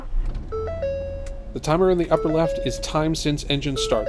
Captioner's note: engine starts; dashboard beeping